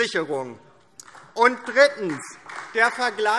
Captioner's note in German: Beifall DIE LINKE